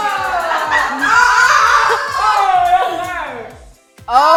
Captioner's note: laugher